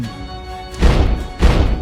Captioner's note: boom